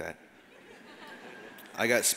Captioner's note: audience laughs